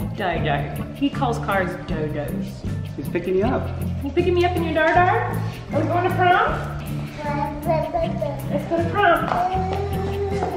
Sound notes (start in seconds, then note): 7.3 babbles